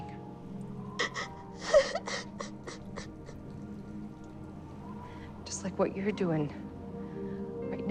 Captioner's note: sobbing